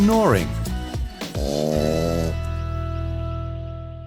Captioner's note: dog snoring